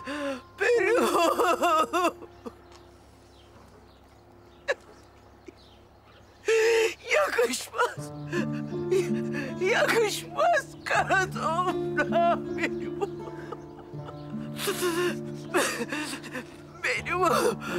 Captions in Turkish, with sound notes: Benim oğlum (Ağlıyor) Yakışmaz Yakışmaz kara toprağa benim oğlum Benim oğlum